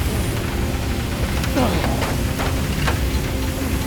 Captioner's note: grunts